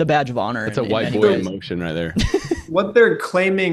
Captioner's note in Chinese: 笑声